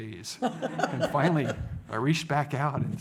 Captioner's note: audience laughs